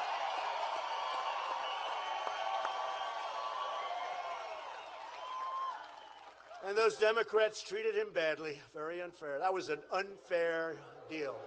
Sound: applause

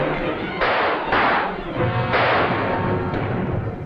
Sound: gunshots

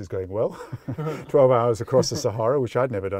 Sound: quiet chuckled laughter

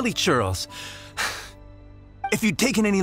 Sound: sigh

